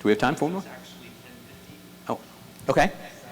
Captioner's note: voiceover